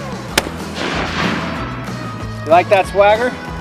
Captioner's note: gun shot